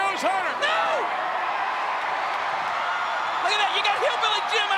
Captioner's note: crowd cheering